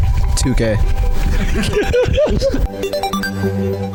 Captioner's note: laughing